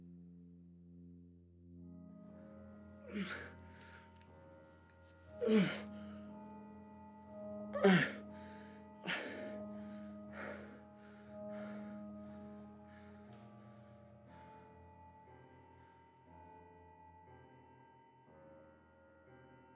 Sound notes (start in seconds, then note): 3.5 sighing and panting; 6.8 soft music